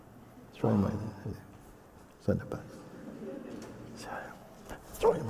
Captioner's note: laughter